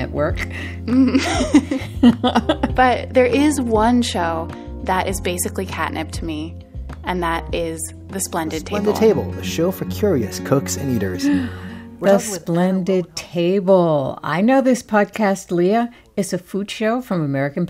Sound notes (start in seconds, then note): 1.0 laughter; 8.4 soundbite of archived recording